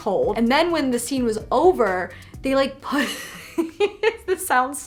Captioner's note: laughs